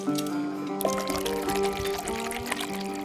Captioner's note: pouring